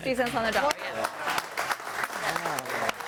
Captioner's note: audience applauding